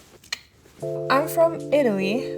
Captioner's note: Vittoria clicks tongue